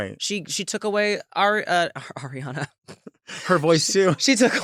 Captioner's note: chuckles